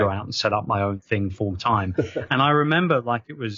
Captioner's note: laughing